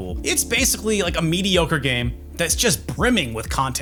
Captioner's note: none